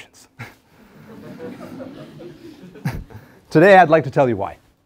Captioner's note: laugh